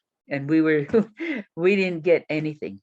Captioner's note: chuckles